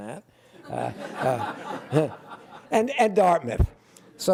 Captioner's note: laughter